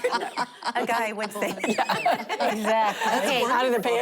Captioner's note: laughter